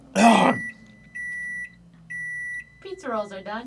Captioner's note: microwave beeping